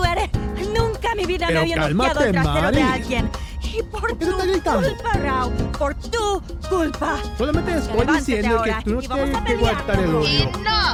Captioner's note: arguing in spanish